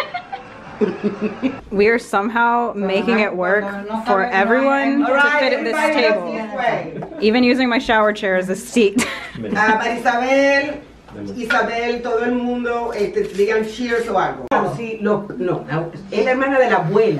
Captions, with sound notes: (giggling) We're somehow making it work for everyone to fit at this table. Even using my shower chair as a seat. (woman speaking foreign language)